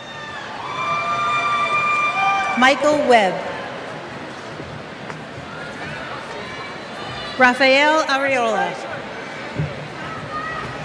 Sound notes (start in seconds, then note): 3.9 cheers